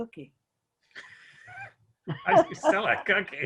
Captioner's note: chuckles